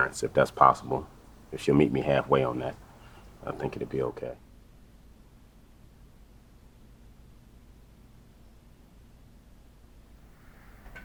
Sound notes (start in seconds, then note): 4.5 silence